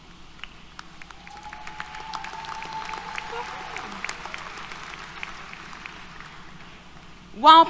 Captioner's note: applause, Cheers